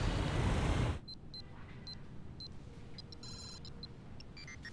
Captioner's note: game beeping